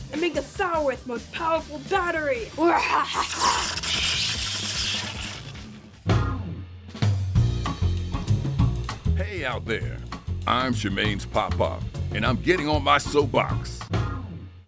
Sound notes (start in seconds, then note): 2.7 evil laugh; 7.1 cool jazz beat